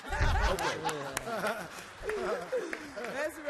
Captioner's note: laughs